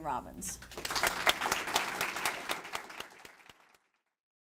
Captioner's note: audience clapping